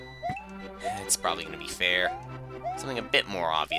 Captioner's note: sigh